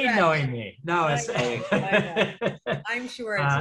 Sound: laughs

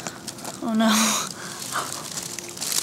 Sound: laughs

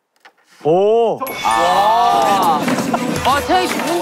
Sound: ding dong

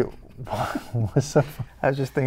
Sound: chuckling

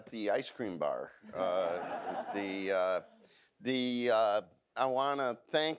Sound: audience laughs

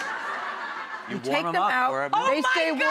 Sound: audience laughs

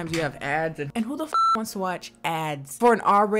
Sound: beep

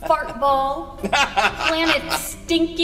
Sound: laughing

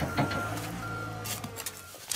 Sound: beeping

